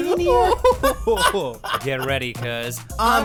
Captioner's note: laugh